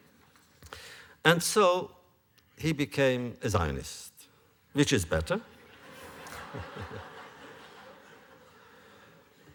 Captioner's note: laughter